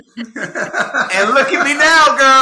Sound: all laughing

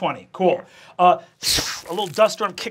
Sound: whooshes

